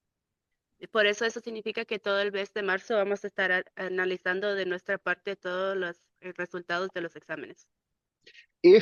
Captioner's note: speaking in Spanish